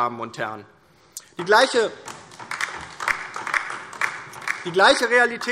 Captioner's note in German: Beifall DIE LINKE